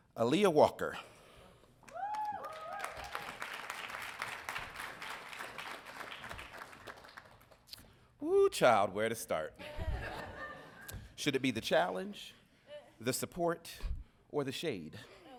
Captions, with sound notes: - Aaliyah Walker. (audience cheering) Whoo, child, where to start? (audience laughing) Should it be the challenge, the support, or the shade?